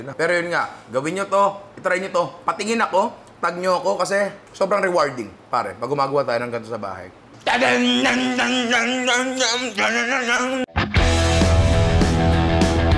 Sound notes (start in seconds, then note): 7.4 imitates outro music; 9.8 outro music